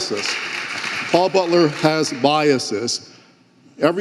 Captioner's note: audience applauding